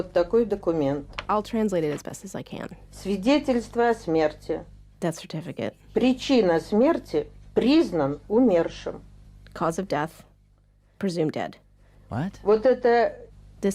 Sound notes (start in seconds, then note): 2.2 speaking Russian